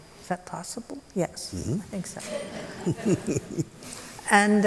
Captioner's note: laughter